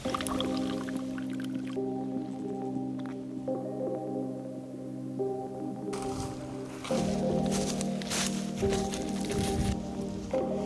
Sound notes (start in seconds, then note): 0.0 coffee pouring; 5.9 crunching leaves